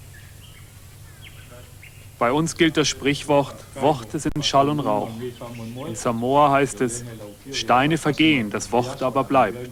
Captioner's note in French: en allemand